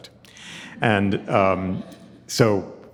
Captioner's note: audience chuckling